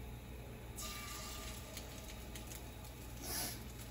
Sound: sizzling

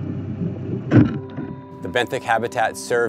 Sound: water gurgling; device thudding

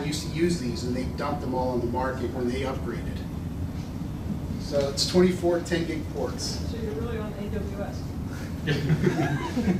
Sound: laughter

